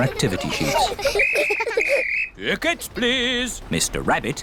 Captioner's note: blows whistle